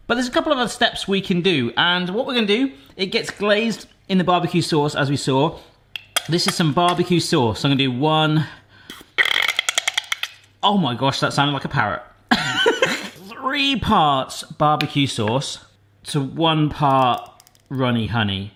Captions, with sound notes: But there's a couple of other steps we can do. And what we're gonna do, it gets glazed in the barbecue sauce as we saw. This is some barbecue sauce. I'm gonna do one, (spurting) oh my gosh, that sounded like a parrot. (laughing) Three parts barbecue sauce to one part runny honey.